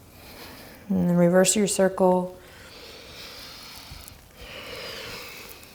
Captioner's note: deep breathing